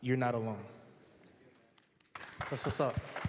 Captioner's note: applause